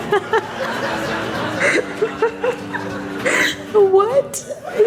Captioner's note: laughter